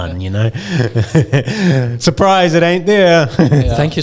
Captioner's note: laughing; laughing